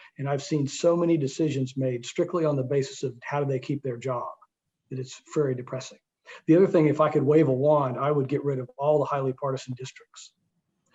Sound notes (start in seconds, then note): none